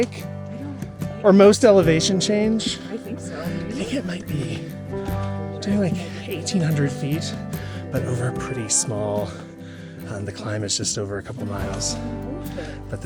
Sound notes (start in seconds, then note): 7.5 panting